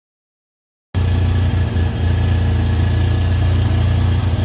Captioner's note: engine roaring